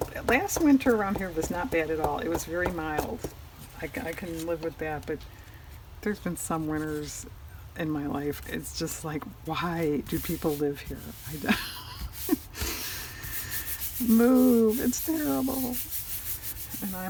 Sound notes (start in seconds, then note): 11.5 laughs